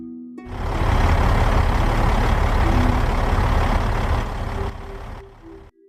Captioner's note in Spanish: Sonido de camión, otra otra vez >:v